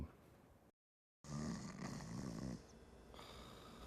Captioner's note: snoring